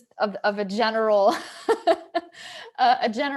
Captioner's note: laughing